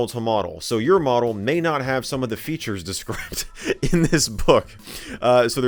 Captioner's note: laughs